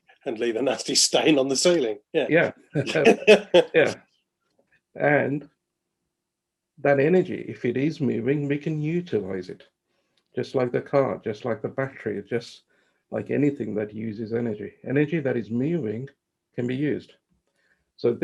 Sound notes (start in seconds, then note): 2.7 both laughs